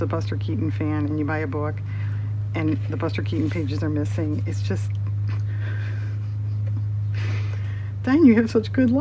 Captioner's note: laughs